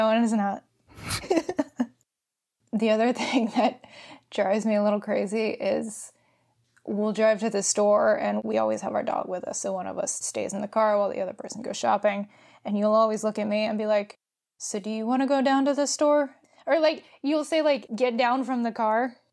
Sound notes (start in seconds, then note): 1.0 laughs